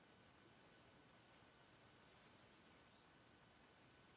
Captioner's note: birds chirping